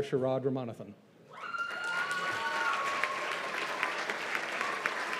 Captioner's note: cheers and applause